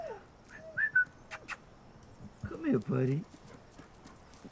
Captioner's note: dog whining; whistles